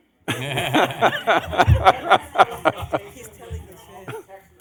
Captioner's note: laughing